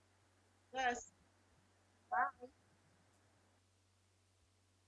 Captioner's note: woman speaking faintly